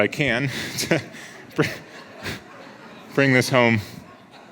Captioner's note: audience laughs